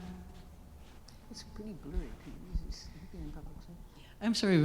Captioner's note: whispering away from mic